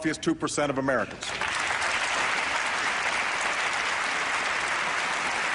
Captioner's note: applause